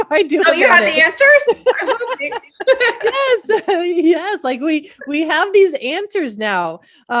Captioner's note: both laugh